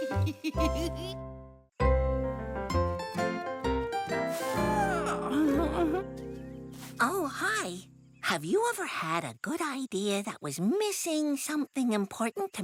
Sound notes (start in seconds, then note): 4.3 stretching yawn